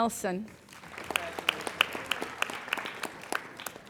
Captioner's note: applauding